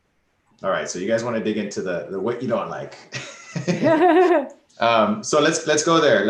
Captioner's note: laughs